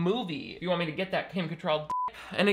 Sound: beep

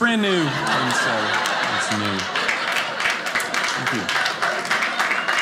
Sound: audience laughing; audience applauding

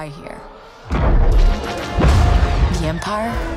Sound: explosions

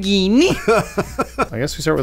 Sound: laughing

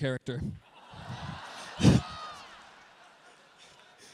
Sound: laughter

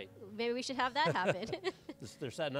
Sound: laughs

